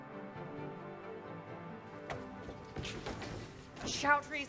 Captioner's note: flames of burning building crackling